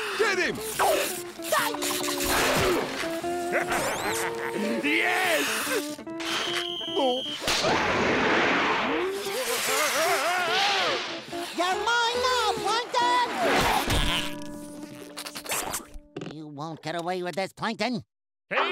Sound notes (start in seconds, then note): 3.2 laughs; 5.2 gulp; 7.5 screams